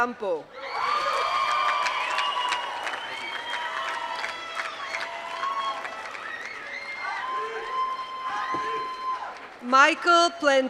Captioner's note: applause